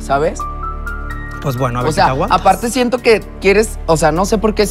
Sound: Georgie, softly

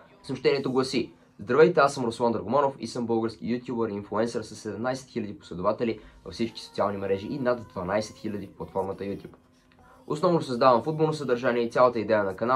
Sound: reading in bulgarian

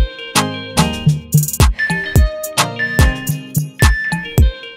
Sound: timer beeping

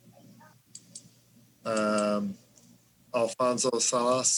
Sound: mouse clicks

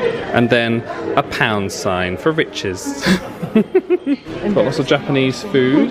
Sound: chuckles

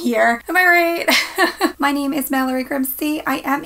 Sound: laughs

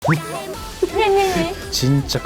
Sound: laugh

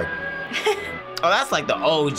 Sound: laughs

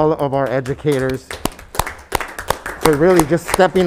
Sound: members clapping

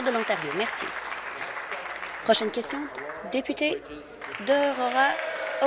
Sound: applause

